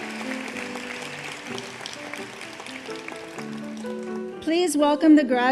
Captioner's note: applause